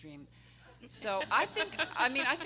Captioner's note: everyone laughing